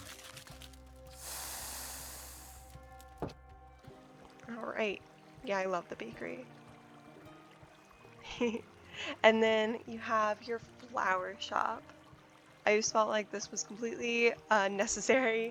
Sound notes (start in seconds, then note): 1.1 whipped cream cannister shakes and sprays; 8.2 giggles